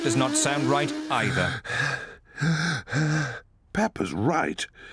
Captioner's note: gasping